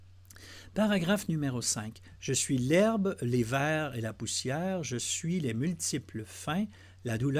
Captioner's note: translating in French